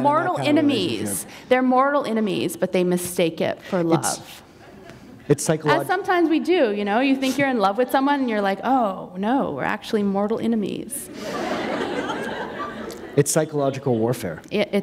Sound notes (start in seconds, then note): 11.1 laughter